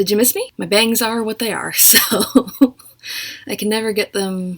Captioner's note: laughs